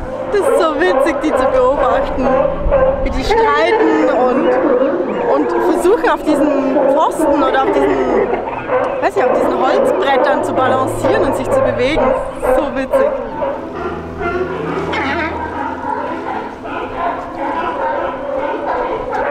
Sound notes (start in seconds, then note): 14.4 sea lion calls